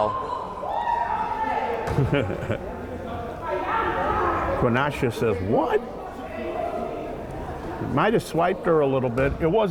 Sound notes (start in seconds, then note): 0.0 girls exlaiming